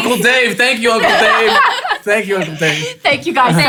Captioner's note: laughing loudly